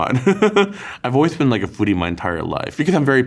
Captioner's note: laughs